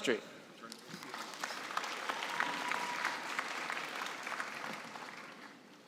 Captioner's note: cheering and applause